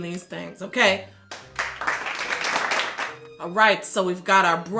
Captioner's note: people clapping